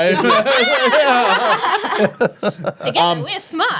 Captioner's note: laughing